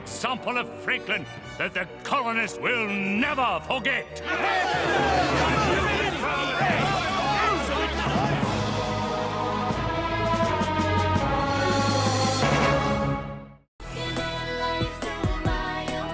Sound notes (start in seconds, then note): 3.3 yelling agreement